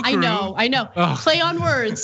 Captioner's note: laugh